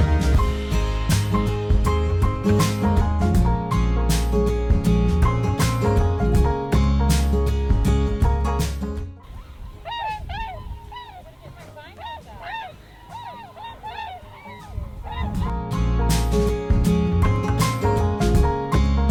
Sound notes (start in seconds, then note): 9.2 birds quacking; 11.5 bird quacking; 11.5 people chattering; 15.0 upbeat instrumental music